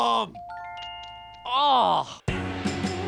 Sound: groans

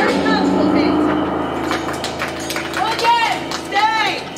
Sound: applause

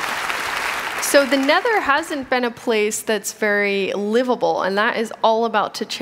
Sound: applause

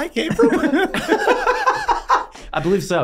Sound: all laughing

